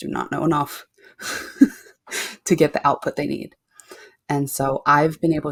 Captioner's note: chuckles